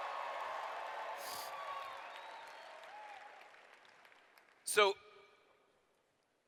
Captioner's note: cheers